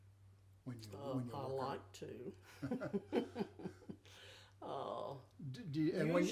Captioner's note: chuckling